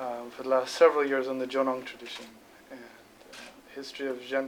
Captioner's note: non-english speech